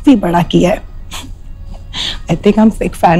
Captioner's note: Laughs